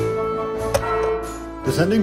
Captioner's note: clang!